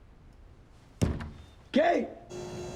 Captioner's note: pounds